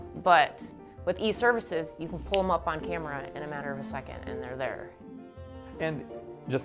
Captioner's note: snapping fingers